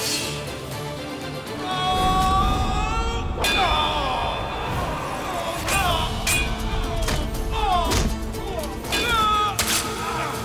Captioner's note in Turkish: Müzik - Hareketli; Savaş sesleri; Müzik - Hareketli